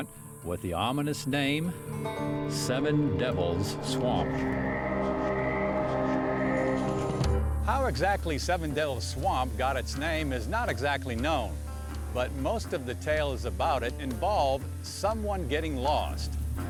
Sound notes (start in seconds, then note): 4.7 frogs croaking; 4.7 tense music